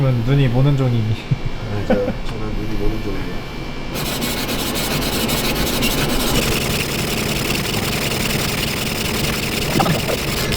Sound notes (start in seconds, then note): 3.9 engraving starts; 6.3 wood burning